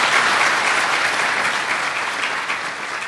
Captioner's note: applause